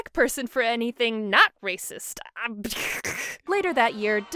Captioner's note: scoffs